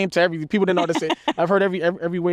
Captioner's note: laughs